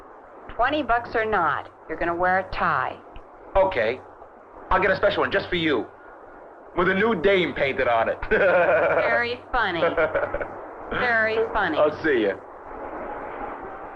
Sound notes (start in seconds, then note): 8.1 laughs